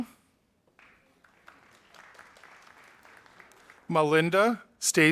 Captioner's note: audience applauding